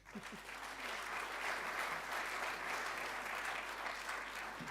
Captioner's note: audience applauding